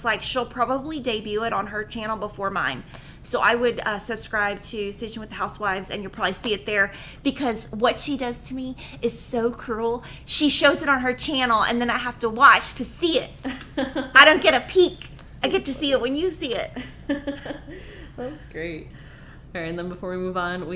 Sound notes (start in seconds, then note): 16.5 laughing